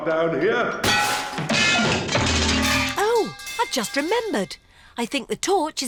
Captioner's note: clanging and crashing